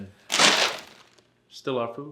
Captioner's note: wrapper clatters